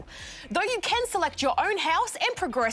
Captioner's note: none